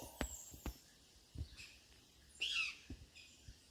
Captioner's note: birds squawking